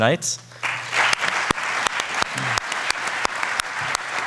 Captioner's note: audience applauding